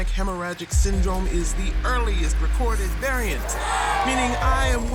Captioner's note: crowd cheering